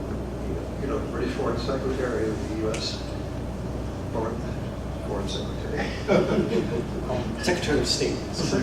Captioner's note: laugh